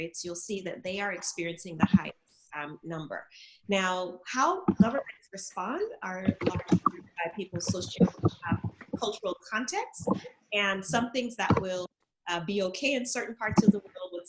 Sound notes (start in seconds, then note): 6.1 audio glitching